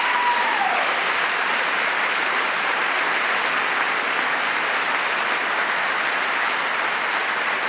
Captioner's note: applause